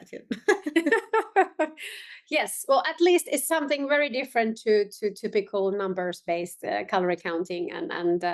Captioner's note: laughing